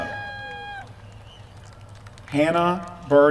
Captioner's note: applause